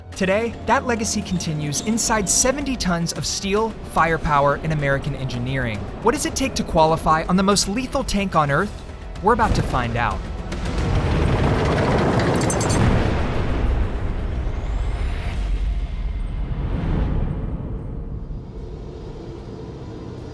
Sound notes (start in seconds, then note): 10.2 tank revs; 12.5 cannon blasts; 16.8 transition whooshes